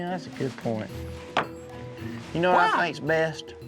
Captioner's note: drops microphone on table